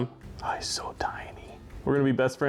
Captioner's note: whispers